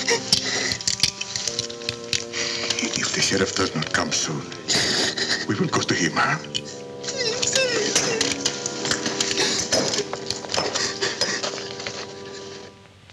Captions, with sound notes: If the sheriff doesn't come soon, we will go to him, huh? - Si, si, si. [whimpers]